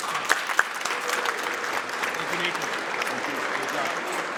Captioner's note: audience applauds